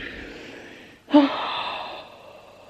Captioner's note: sigh of regret